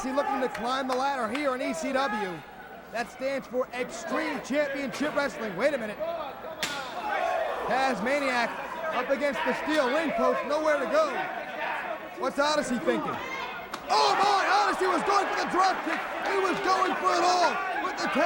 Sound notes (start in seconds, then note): 7.8 crowd chatter